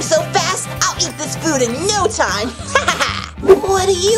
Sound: laughs

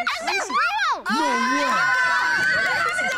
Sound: cheering

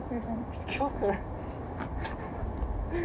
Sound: Griffin laughs

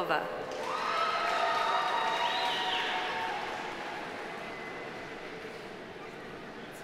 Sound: audience applauding; audience cheering

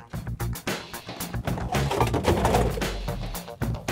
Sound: containers rattling

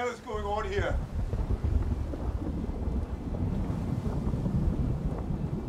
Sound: thunder storm

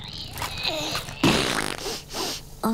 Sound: groaning; splattering

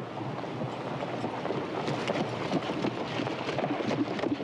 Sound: horse hooves clop

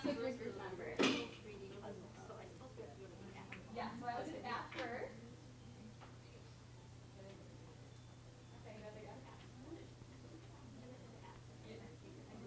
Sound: chatter

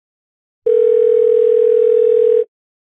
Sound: dial tone

